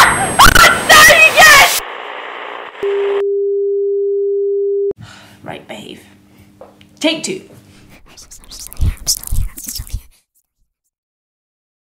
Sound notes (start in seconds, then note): 1.9 computer in distress tone